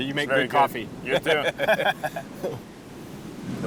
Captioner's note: laughter